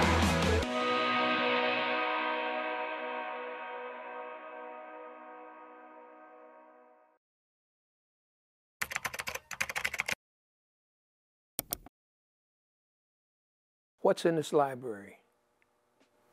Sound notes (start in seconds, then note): 8.8 keyboard keys tapping